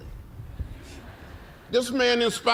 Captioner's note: laughter